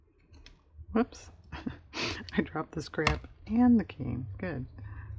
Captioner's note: laughs